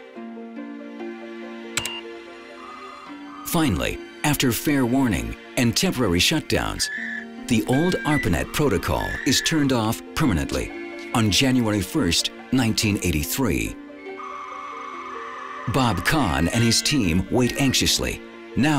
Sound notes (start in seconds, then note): 1.8 beeps; 1.8 computer modem crackling; 14.1 computer modem squawking